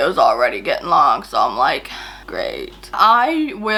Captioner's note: sighs